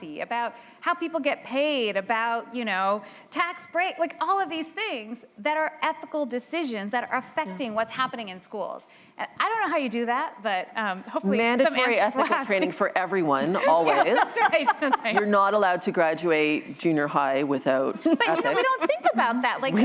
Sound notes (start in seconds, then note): 13.6 laughter